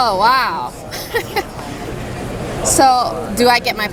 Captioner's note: laughs